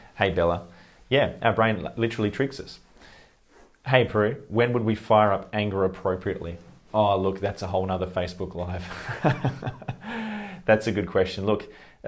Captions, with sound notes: Hey Bella. Yeah, our brain literally tricks us. Hey Peru. When would we fire up anger appropriately? Ah look that's a whole nother Facebook Live. (laughs) that's a good question, look,